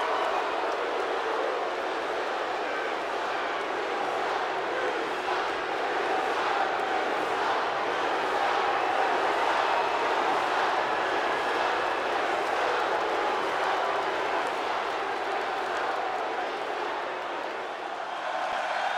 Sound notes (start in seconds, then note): 7.8 applause